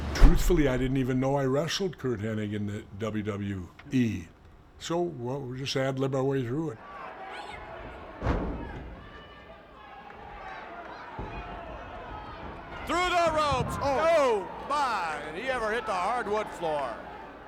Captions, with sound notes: Truthfully, I didn't even know I wrestled Curt Hennig in the WWE. So, what, we just ad lib our way through it. (audience clamoring) (body thudding) (audience clamoring) Through the ropes. Oh, my. Did he ever hit the hardwood floor?